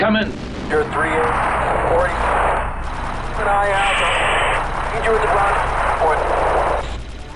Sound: static

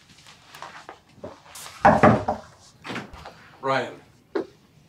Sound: knocking

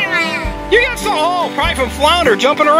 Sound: voiceover

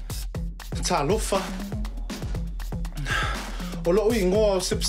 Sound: speaks Samoan

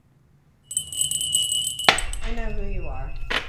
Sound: bell rings

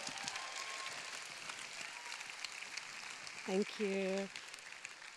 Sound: applause

